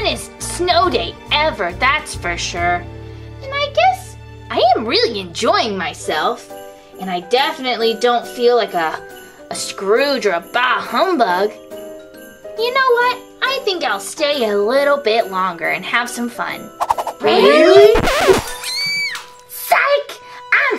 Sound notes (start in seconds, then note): 16.8 whooshing; 18.5 screaming